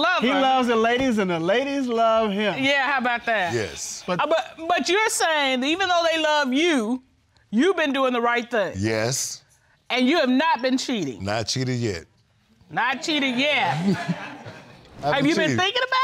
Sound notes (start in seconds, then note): 13.4 audience laughs